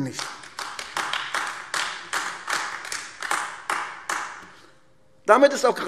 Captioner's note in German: Beifall AfD